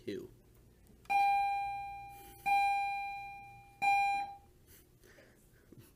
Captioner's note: bell ringing